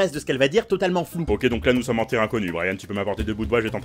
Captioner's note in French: voix grave, débit de parole rapide